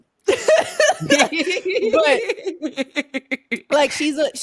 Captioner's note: laughing